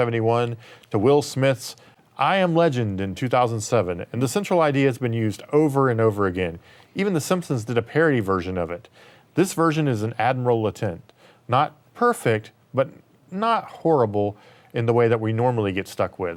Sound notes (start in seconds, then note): none